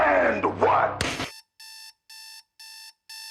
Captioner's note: alarm blaring